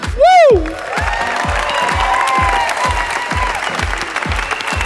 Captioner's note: audience applauding